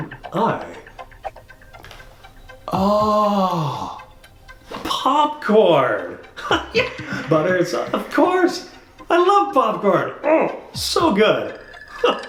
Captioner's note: suspenseful music; whooshing noise; laughs